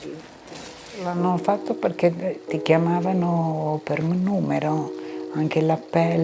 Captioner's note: speaking in foreign language